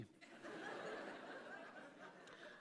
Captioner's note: laughter